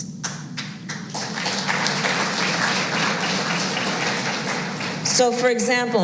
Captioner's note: applause